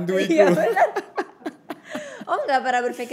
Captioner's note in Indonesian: tertawa